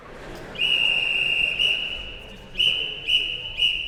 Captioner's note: whistle blowing